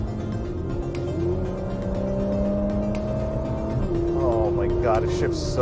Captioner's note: engine revving